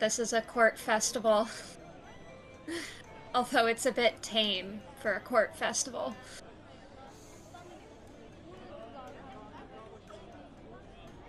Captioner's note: laughs